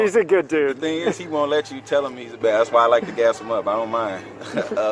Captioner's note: laughing